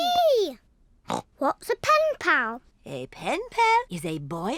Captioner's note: snorts